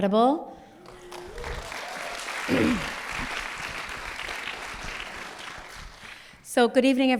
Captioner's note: applause